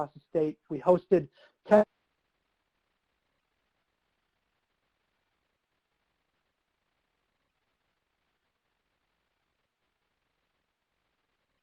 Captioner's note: audio cuts out